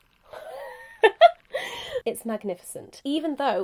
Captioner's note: giggling